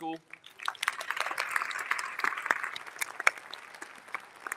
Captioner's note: all applauding